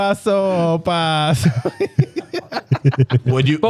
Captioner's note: speaking In Foreign Language; laughing